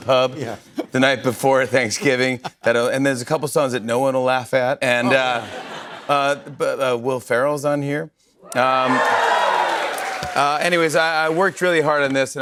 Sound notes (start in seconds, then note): 5.1 laughter; 8.5 cheers and applause